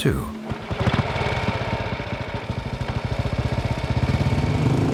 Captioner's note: motorbike engine starts